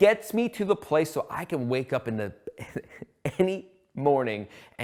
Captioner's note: laughs